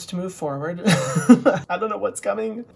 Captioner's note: laughs